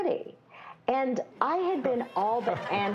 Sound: laughter

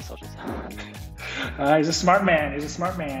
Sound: laughs

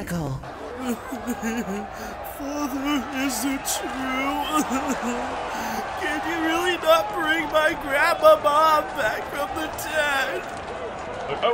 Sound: crybaby voice

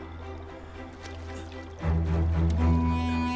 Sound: splashing water

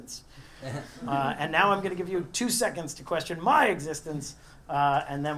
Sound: laugh

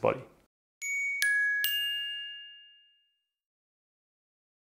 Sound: bell ringing

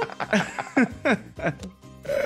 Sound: laugh

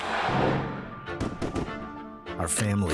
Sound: gun fires

